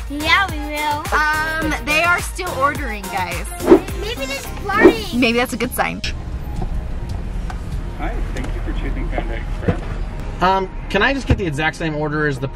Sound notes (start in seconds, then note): 8.0 man In Speakerphone